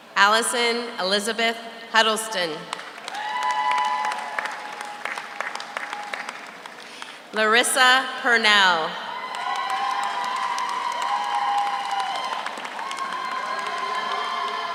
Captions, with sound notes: Alison Elizabeth Huddleston. (audience cheers) (audience applauds) Larissa Purnell. (audience cheers) (audience applauds)